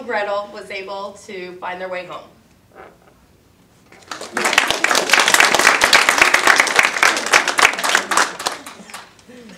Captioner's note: audience applause